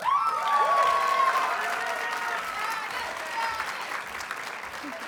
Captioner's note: audience cheers and applauds